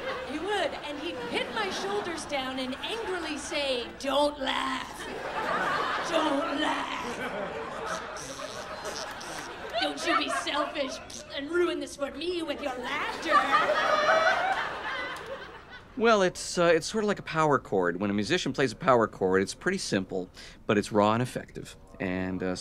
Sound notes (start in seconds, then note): 0.0 laughter; 4.9 laughter; 12.5 laughing